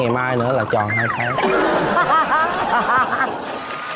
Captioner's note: laughing